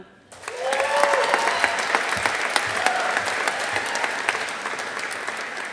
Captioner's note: audience applauding